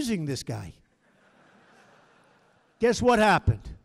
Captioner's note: laughter